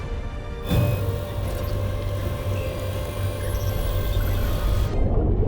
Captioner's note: electronics beeping